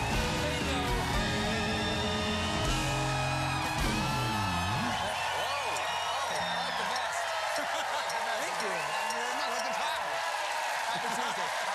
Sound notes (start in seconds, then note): 0.0 cheers and applause